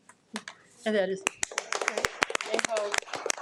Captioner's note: attendees applaud